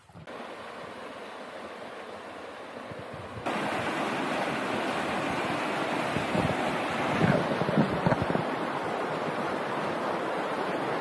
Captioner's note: river sounds